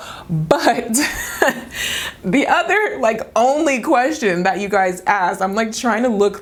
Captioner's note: laughing